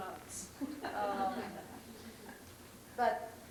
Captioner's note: laughter